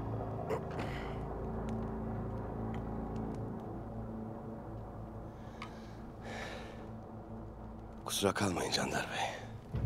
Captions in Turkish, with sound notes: (Nefes sesi) Kusura kalmayın Candar Bey.